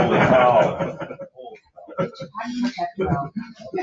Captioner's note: laughing